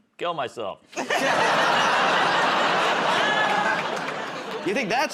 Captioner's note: laughter